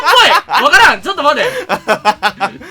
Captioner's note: laugh